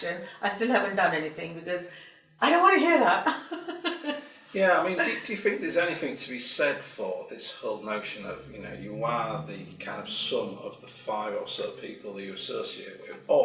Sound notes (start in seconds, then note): 3.2 laughs